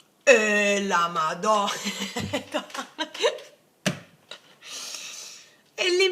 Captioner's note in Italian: risate